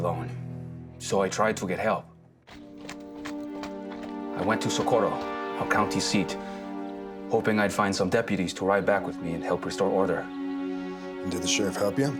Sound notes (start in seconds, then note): 2.4 horse trotting